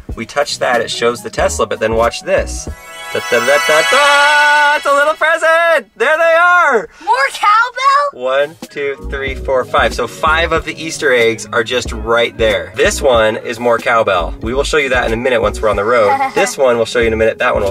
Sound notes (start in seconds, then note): 2.7 chimes; 2.9 singing fanfare music